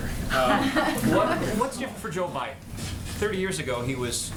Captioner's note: laughter